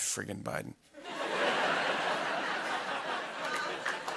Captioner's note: laughter